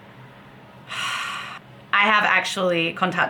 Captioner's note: sigh